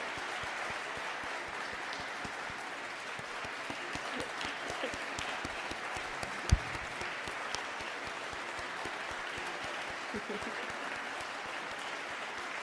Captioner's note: applause